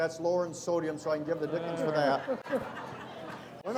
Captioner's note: audience laughing